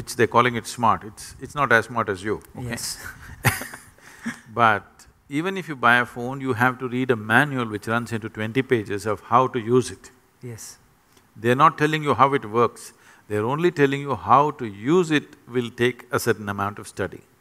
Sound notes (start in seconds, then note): 3.0 laughter